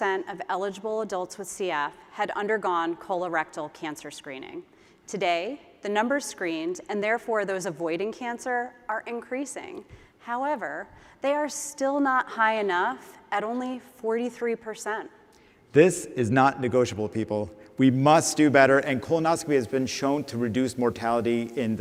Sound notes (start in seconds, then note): none